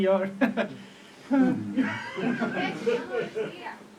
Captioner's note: Fancybeard sighs nervously; audience laughs